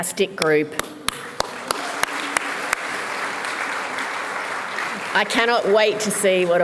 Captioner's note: applause